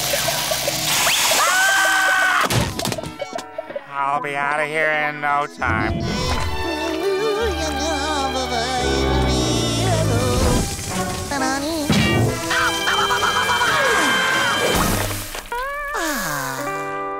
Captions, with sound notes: [screaming] I'll be outta here in no time. [humming] Ow! Ow! Ow! Ow! Ow! Ow! [screaming] [sighing]